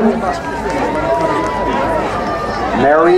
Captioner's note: crowd cheering